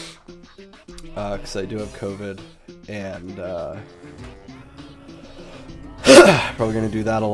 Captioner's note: coughs